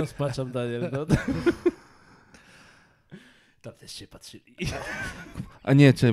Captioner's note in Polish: śmiech